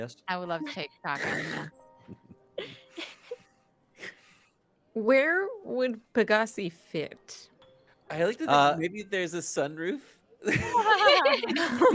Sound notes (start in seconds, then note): 2.1 all giggle; 10.5 all laugh